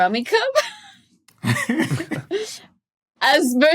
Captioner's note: chuckles